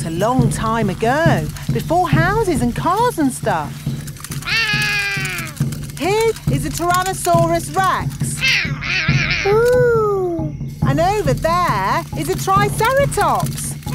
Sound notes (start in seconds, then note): 4.5 roaring; 8.4 roaring